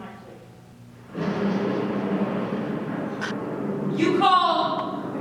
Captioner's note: thunder